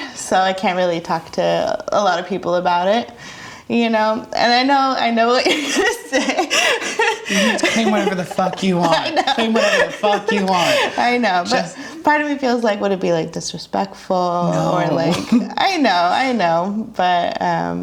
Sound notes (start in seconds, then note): 6.7 laughs; 9.7 laughs